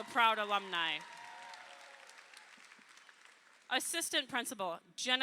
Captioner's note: crowd applauding